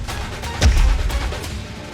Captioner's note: bangs